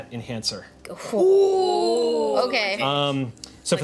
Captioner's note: group oohs